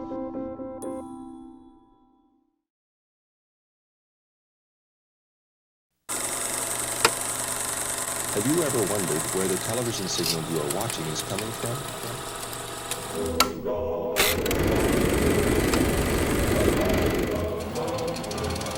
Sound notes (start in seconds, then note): 6.6 projector clicking